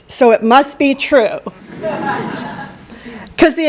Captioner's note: laughter